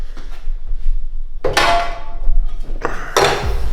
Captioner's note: metal Clanging